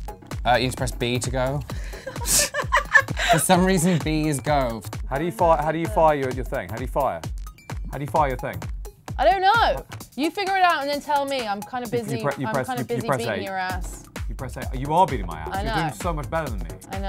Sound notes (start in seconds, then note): 1.8 both laugh